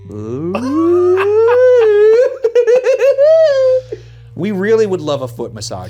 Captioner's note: both laughs